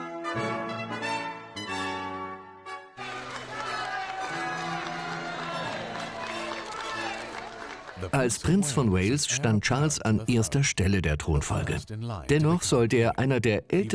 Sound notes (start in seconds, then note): 2.9 crowd cheering; 7.7 voiceover